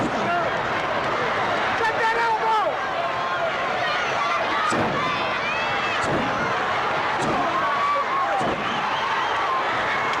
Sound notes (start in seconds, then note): 3.5 audience chattering